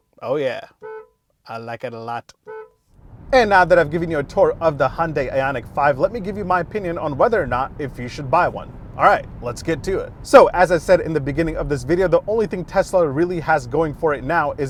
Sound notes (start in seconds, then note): 0.0 horn honking